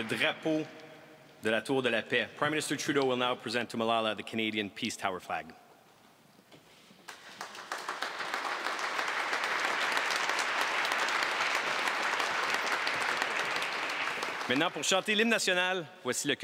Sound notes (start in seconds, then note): 0.0 applause; 1.1 speaking french; 10.9 applause